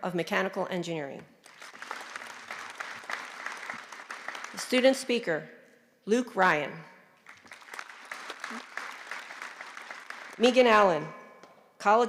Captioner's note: applause